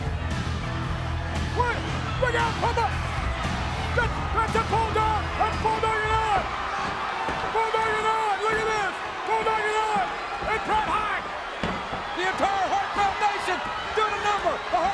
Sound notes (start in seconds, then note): 6.2 audience cheers